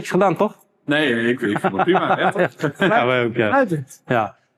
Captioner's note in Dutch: gelach